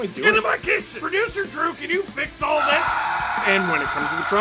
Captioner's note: screaming